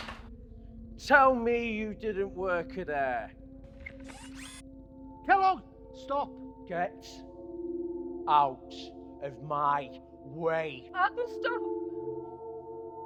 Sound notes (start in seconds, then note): 0.0 Andrew's equipment clatters; 0.0 fist thuds; 3.8 Kellogg's limbs whirring